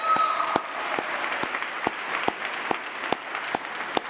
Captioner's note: applause